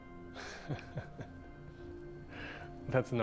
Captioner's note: chuckles